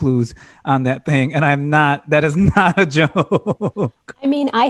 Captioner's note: laughter